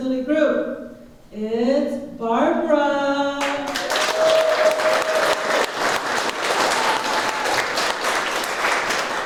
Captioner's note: applause